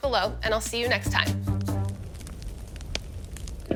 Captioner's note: fire crackles